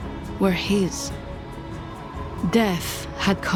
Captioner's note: wind howls